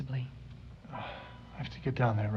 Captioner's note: sigh